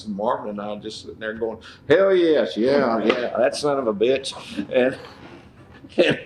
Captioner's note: laughter